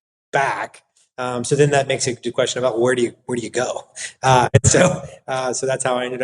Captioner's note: laugh